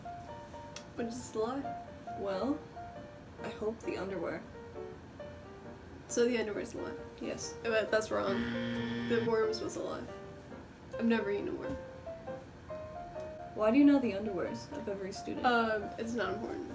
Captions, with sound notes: –Which is the lie? –Well...I hope the underwear. –So the underwear's the lie. –Yes. –That's wrong. [incorrect buzzer] The worms was the lie. I've never eaten a worm. –Why do you know the underwears? Of every student? –Um, it's not important.